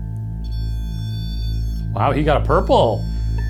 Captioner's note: device beeping